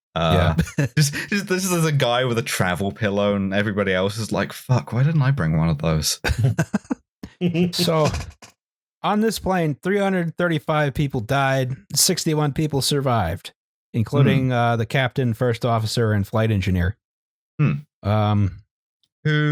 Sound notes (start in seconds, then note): 0.2 laughs; 6.2 laughter